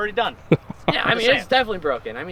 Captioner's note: laughing